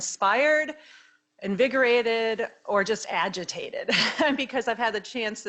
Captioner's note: laughing